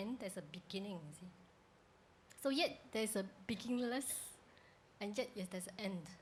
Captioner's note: none